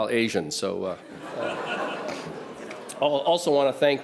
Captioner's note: audience laughs